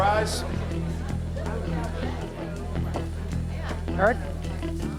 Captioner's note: low courtroom chatter